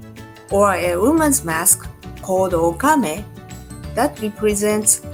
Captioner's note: speaking in Japanese language